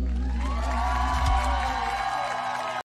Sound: cheers and applause

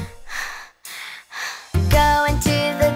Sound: exhaling; inhaling; exhaling

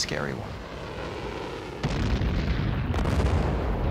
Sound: explosions

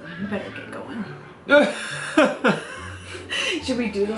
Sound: laughs

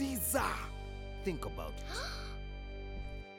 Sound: gasps

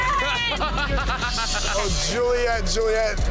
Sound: laughs

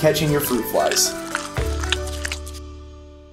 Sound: dog licks jar

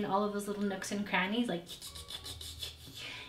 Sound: mouth clicking

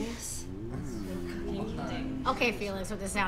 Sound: Felix oohing

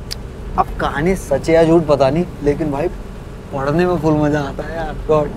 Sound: none

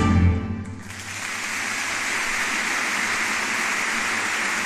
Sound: audience clapping

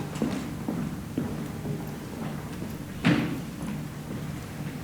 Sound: foot steps moving

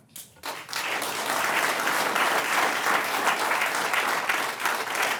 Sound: audience clapping

